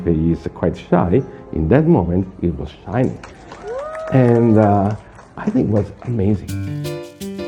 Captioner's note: cheering & clapping